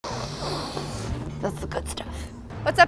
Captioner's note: sniffing